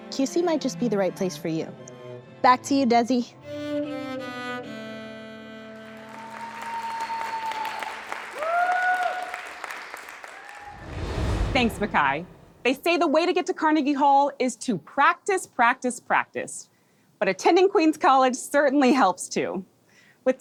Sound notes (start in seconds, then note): 3.4 violin music; 5.8 audience applauds and cheers